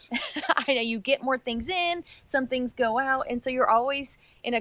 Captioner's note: laughs